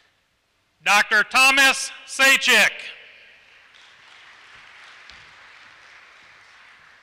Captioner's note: applause